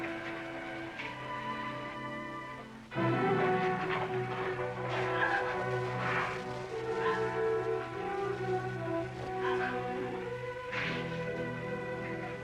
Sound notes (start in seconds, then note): 5.2 crying, sobbing